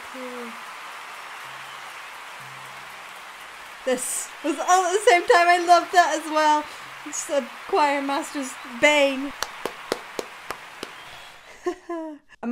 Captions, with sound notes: It must be so cool. This. It was all at the same time, I love that as well. It's the choir master's bane. (claps) (laughs)